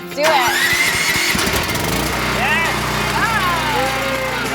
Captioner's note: generator starts; cheers